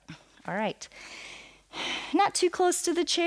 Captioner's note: inhales and exhales